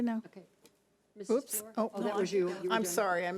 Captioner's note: overlapping chattering